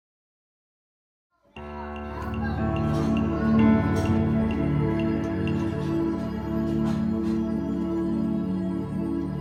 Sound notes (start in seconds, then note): 1.5 people chattering; 1.6 gentle music